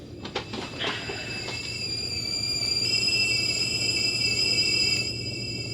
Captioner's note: kettle sound